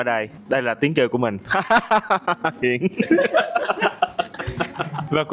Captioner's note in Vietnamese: tiếng cười